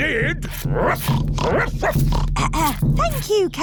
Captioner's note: oinks; barks; clears throat